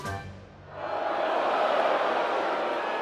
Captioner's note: crowd boos